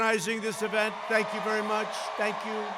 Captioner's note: applause